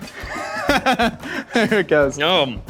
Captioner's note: laughing